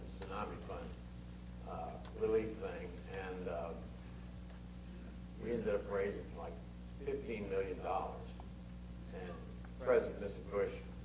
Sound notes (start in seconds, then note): none